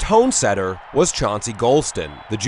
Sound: crowd

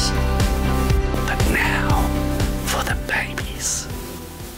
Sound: whispered

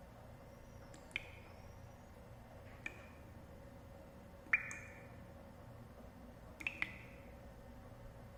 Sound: sound of drops of water falling over a plant

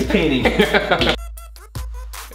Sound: Collins laughs loudly; trippy music

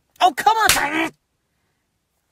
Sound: slap

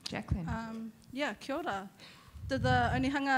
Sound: speaking in foreign language

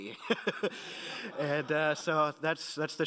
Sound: laughing

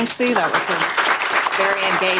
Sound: applause

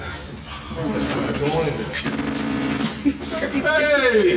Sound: door opening

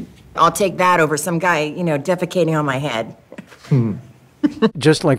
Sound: laughs

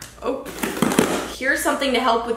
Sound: tearing

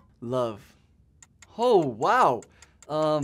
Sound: timer ticking

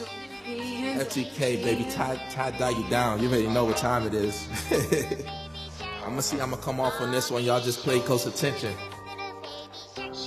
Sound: laughs

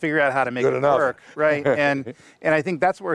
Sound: laughs

